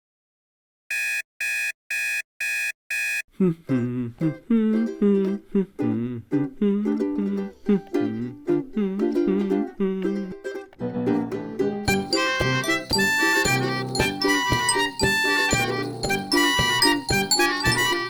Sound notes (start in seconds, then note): 0.9 alarm buzzing; 3.3 man humming; 3.5 bright instrumental music